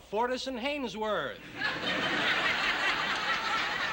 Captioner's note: laughter